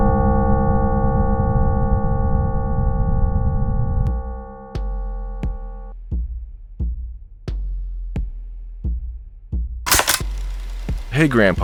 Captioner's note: tape sounds